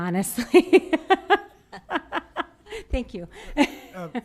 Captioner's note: laughs